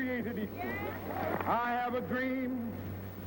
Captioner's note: crowd cheering